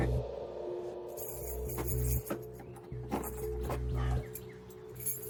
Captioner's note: keys rattling